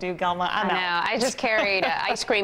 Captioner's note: laughter